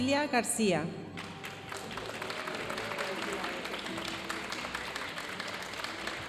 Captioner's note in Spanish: aplausos de la audiencia